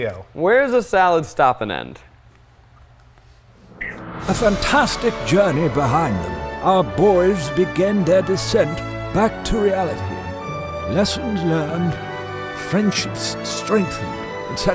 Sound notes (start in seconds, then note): 3.2 deep breath